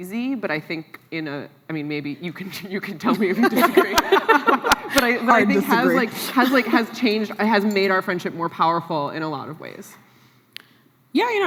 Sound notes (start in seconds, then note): 3.1 laughs